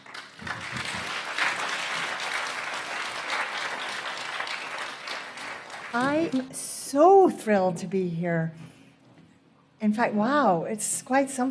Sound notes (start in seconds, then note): 0.0 applause